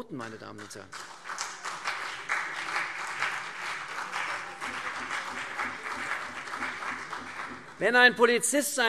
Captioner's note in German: Beifall CDU und BÜNDNIS 90/DIE GRÜNEN